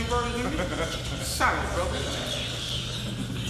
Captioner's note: inmate laughs